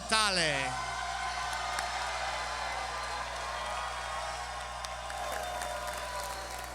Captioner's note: clapping